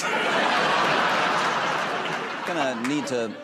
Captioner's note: laughter